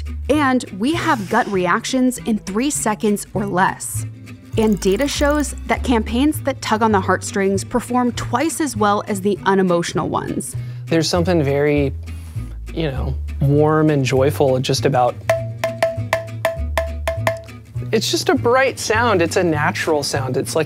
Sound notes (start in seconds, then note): 15.3 can banging